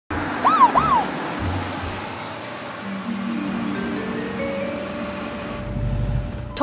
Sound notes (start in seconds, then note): 0.2 police sirens; 3.8 curious music